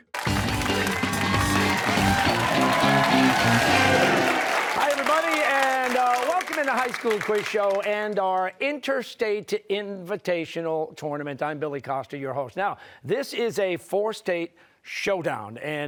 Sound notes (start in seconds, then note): 2.6 cheers and applause